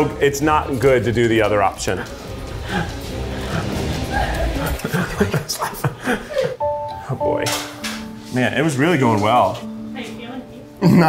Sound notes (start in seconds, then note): 4.0 crew laughing; 4.0 suspenseful music